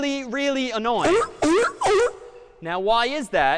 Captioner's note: sea lion barking